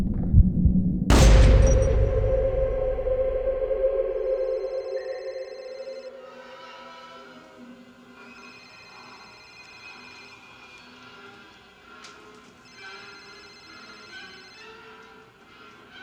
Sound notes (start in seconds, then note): 1.1 gun fires; 5.0 phone rings